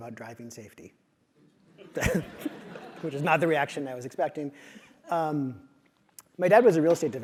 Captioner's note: laugh